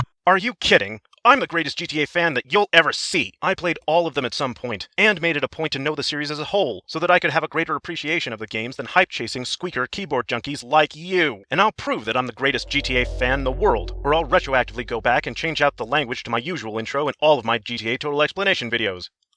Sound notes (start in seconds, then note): 12.4 time Travel SFX